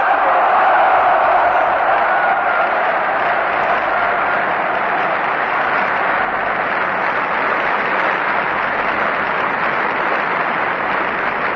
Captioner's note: applause, Screams: "Yes!"